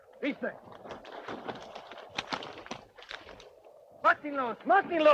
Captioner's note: Red Hawk speaks Spanish